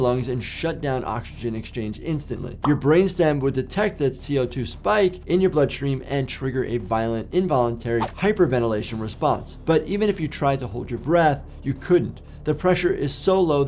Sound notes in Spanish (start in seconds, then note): 9.0 transición silbante